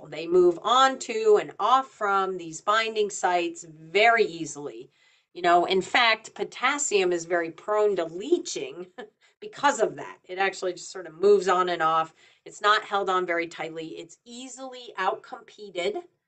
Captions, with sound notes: They move onto and off from these binding sites very easily. You know, in fact, potassium is very prone to leaching (chuckles) because of that. It actually just sort of moves on and off. It's not held on very tightly. It's easily out-competed